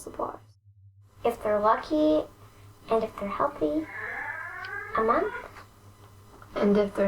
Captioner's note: mraowwww!